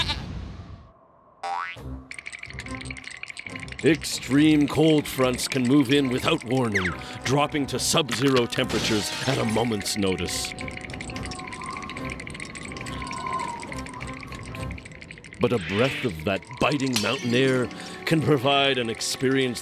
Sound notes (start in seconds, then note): 2.1 both shivering; 10.5 wind whistling